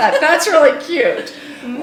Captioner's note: laughing